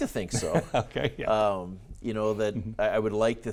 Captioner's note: laughs